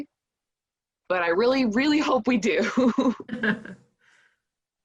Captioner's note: laughing